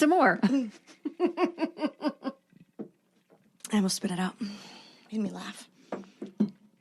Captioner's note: laughing